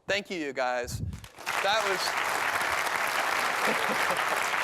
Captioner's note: applause